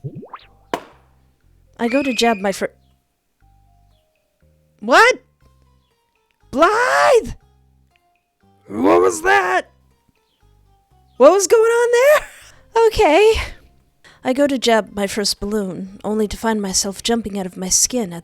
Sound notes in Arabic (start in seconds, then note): 4.4 صرخة تتخثّر بالدم